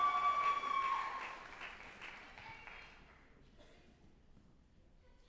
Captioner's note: group applauding and cheering